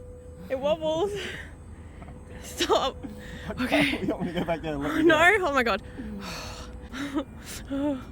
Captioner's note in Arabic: تنهد